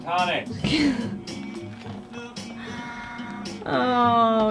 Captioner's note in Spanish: riendo